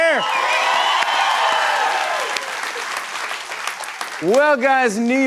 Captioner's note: cheers and applause